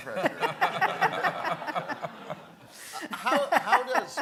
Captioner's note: laughing